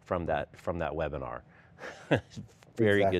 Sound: laughing

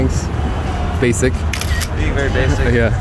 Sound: camera shutter

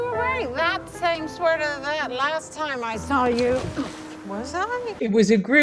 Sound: drunkenly; grunts

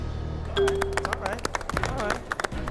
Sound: applause

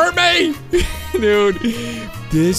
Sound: pained laughter

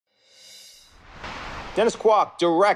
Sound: air whooshing

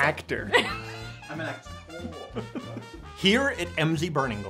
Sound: laughing

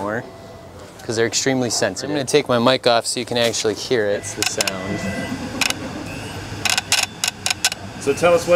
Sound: click click

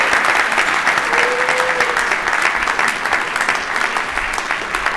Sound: applause

